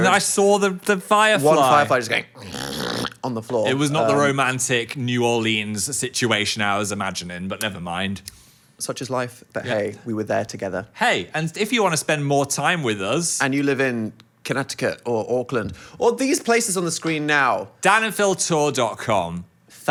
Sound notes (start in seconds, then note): 2.3 grunts